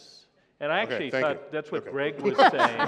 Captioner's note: laughter